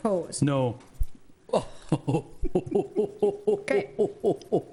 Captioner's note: laughing